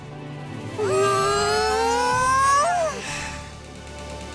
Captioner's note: migraine groan